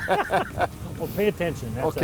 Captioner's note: group laughs